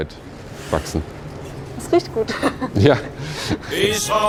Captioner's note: both laugh